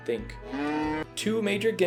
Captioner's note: cow loudly mooing